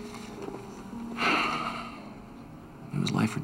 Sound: sighs

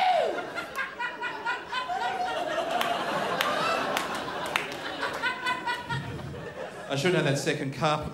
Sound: crowd laughs

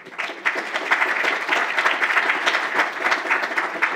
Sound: applause

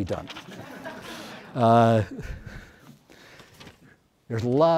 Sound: audience laughs

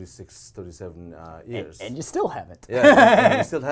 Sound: laughs

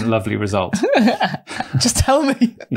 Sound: laughing

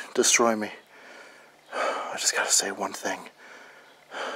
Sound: heavy breathing; heavy breathing

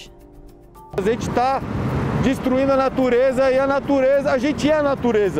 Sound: speaking in Portuguese

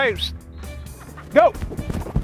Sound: whistles

